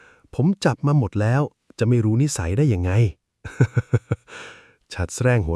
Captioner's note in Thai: เสียงหัวเราะ